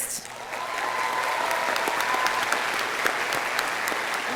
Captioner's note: audience applauding